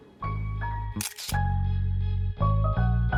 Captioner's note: upbeat music; camera shutter clicking; upbeat music